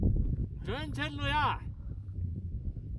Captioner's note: shouting